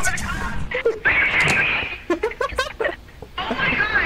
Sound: over Radio; laughs; over Radio

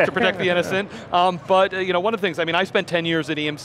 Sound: laughing

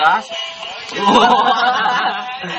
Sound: laughing

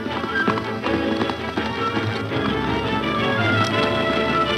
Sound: hooves clopping

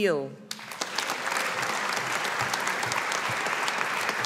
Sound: audience applauding

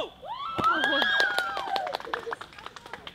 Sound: clapping

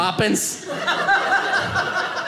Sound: audience laughing

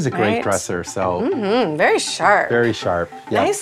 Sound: humming

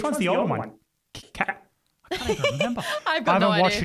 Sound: laughs

